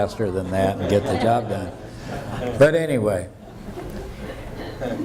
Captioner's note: laughter